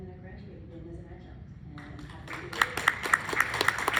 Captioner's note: applause